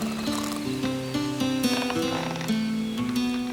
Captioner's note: rope creaks